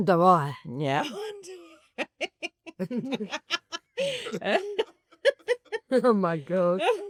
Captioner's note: laugh